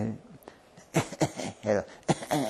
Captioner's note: coughing